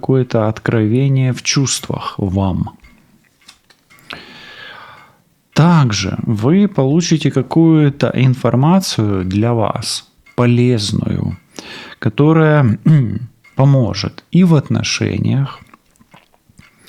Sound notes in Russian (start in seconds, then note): 4.0 вздыхает